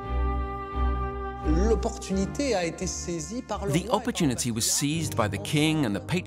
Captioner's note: speaking French